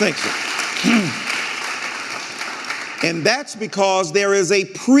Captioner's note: audience applauding